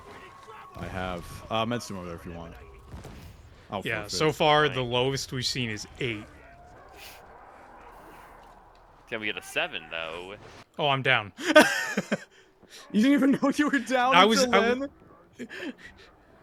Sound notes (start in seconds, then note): 11.4 laughter